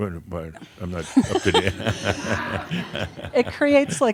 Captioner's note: they chuckle